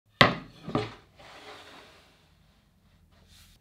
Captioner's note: board sliding